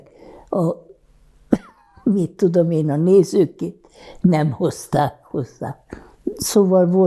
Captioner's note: laughing